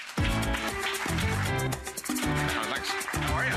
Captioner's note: applause; upbeat music